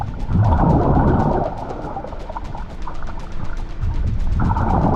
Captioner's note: water gurgling continues